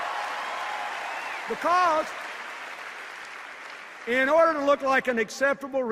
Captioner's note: cheers and applause